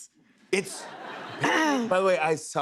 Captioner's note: laughter